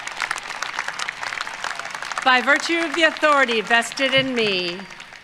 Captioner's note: applause